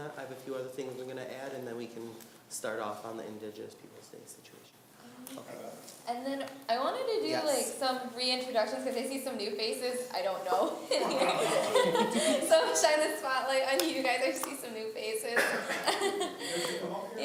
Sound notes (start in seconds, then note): 10.6 laughing; 15.4 laughing